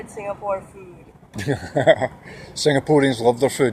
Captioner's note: nervous laughter